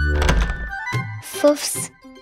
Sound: door closes

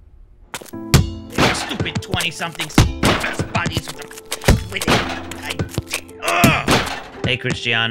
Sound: angry stuttering

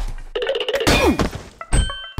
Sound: crashes

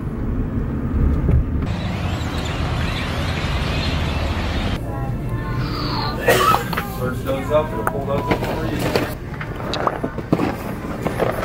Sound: demonic birds screeching

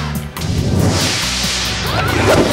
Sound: laughing; screaming

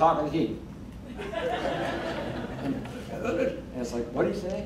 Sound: crowd laughing

